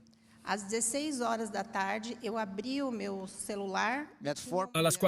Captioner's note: Hablando idioma extranjero